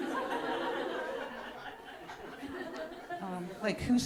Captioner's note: audience laughing